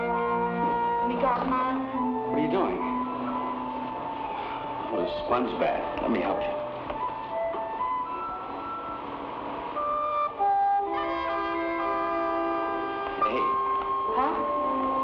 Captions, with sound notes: (woman speaking in Tagalog) What are you doing? Oh a sponge bath, let me help you. (somber music) Hey. - Huh?